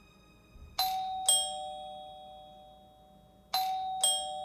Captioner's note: door bell rings